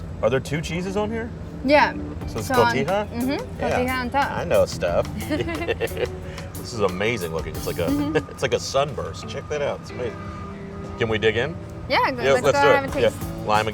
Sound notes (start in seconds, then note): 5.1 laughs